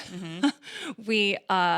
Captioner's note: laughs